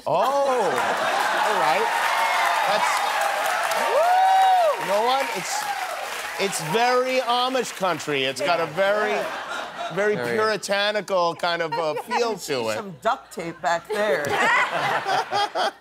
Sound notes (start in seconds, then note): 9.2 cheers and applause